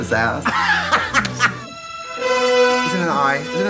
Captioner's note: Katya laughs